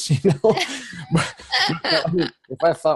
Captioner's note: laughs